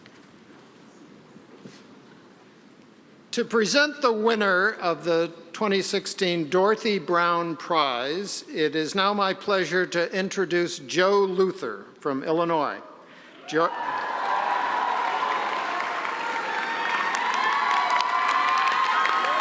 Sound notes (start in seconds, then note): 13.3 applause; 13.4 cheering